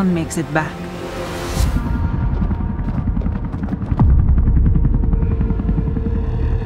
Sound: helicopter blades; ominous music playing

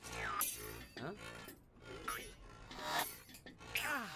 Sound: pinging; groans

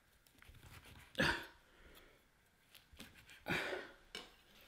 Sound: grunting

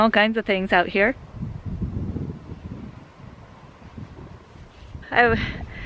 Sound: wind

